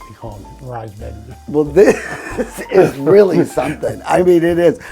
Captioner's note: laughing